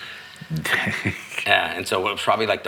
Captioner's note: laughing